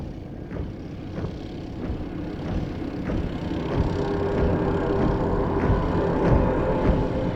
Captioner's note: boots marching